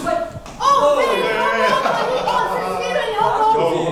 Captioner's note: laughs